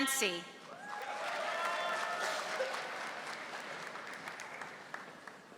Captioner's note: audience applauding